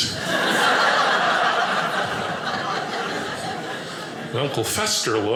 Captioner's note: audience laughing